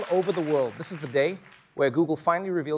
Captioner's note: applause